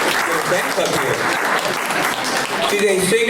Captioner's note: applause